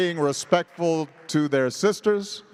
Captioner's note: applause